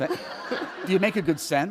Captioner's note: laughter